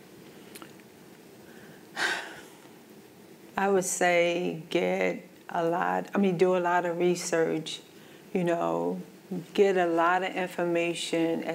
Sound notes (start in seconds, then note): 1.9 sighs